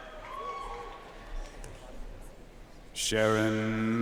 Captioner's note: audience cheering and applauding